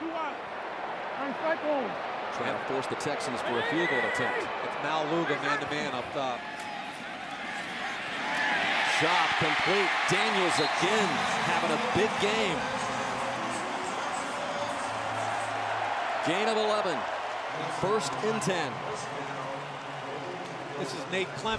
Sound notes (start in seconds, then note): 12.7 pa announcement